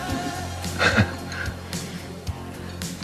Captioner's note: chuckles